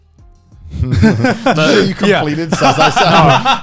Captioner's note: laughs